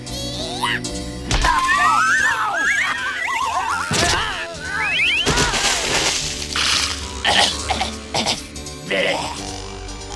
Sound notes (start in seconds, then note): 1.4 screaming; 7.0 coughing